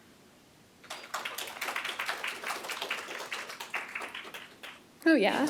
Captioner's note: applause